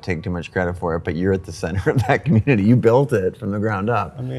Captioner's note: laughs